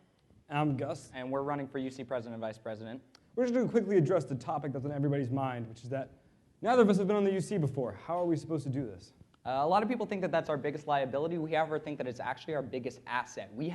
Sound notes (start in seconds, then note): none